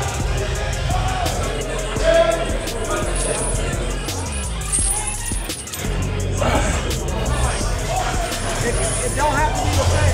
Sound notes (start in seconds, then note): 4.5 chains rattling